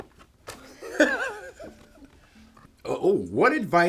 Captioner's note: Paul laughing